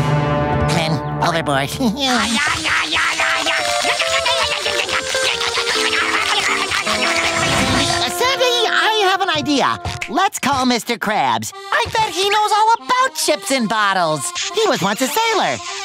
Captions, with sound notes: Men overboard. [chomping] Sandy, I have an idea. Let's call Mr. Krabs. I bet he knows all about ships and bottles, he was once a sailor.